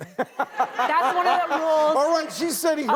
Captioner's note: laughter